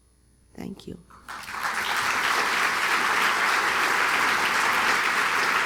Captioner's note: applause